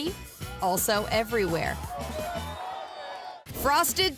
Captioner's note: muffled cheering